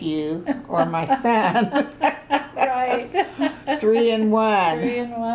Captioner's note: laughter